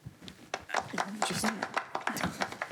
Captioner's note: applause